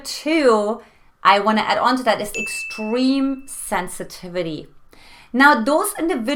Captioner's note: beep